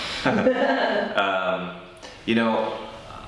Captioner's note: laugh